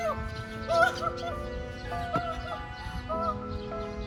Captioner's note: more semi-royal sobbing